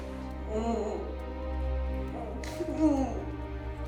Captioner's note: Meg grunting